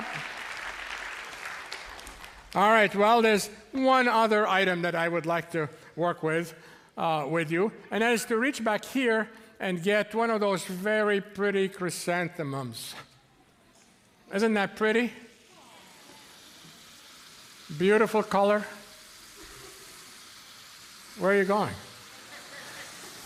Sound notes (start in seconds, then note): 15.0 boiling liquid nitrogen hisses; 18.7 boiling liquid nitrogen bubbles; 22.2 laughter